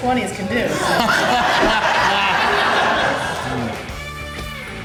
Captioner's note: crowd laughter